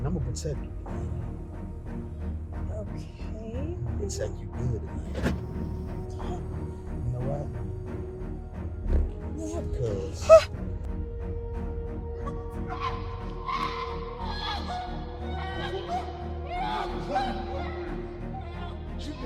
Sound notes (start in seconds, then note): 5.1 doors lock; 8.7 freighted noises; 12.6 struggling and yelling